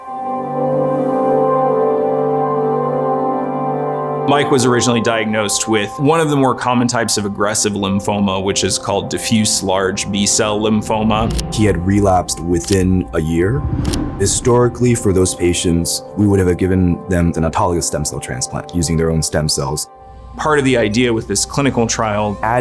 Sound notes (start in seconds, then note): 11.2 camera click; 13.8 camera click